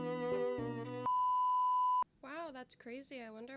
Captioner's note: beeeeeep